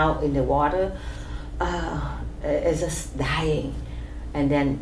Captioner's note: sighs